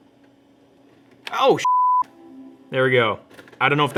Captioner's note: beep